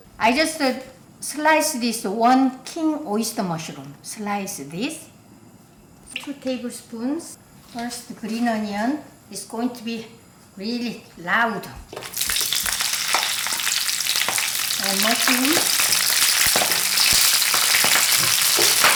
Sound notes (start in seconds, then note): 12.0 oil crackling